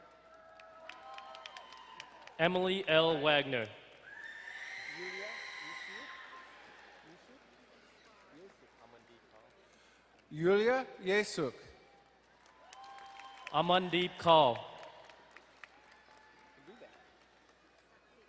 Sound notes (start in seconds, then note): 0.0 crowd cheering and applauding; 12.2 crowd cheering and applauding; 15.2 distant cheering